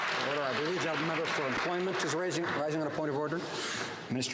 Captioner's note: some Applause